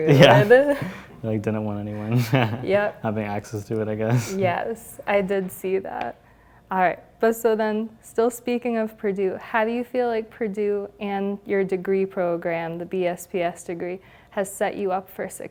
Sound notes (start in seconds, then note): 0.0 laugh